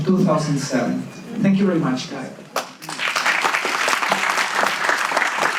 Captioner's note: audience claps